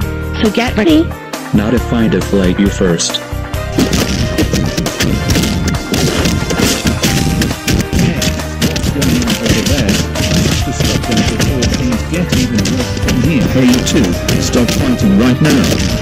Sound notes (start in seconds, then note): 3.8 punches landing